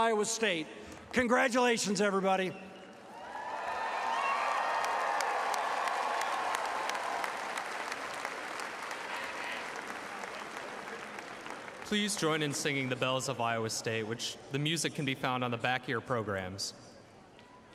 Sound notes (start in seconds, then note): 10.0 applause